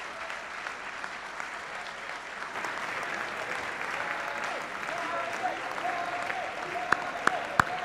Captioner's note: applause